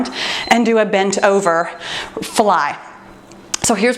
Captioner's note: timer beeps